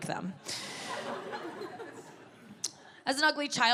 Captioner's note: audience laughing